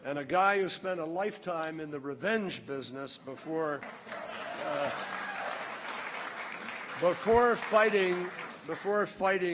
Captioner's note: laughter, applause